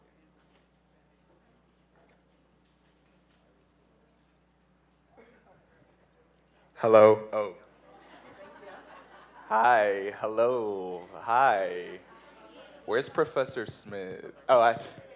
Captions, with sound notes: Hello, oh. (laughing) Hi, hello. Hi. Where's Professor Smith?